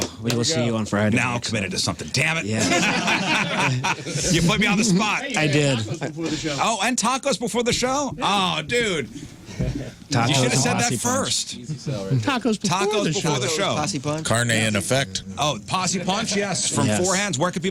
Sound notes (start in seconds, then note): 2.5 laughing